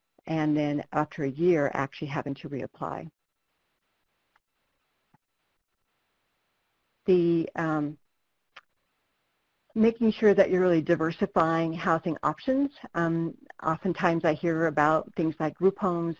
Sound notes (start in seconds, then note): 7.9 no audio